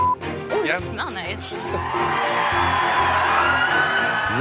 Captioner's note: Gritos e aplausos